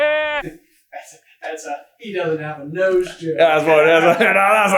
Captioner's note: laughing